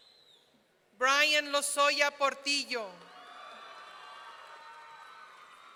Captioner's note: audience cheering